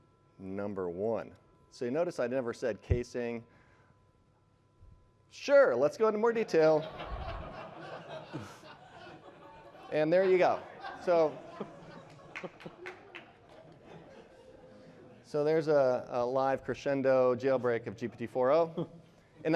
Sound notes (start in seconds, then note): 12.0 applause